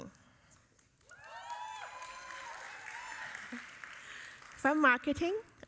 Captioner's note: audience cheering